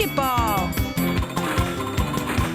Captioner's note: bell ringing